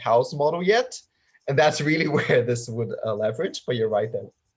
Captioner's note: laughs